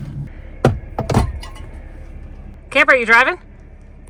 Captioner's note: cup clattering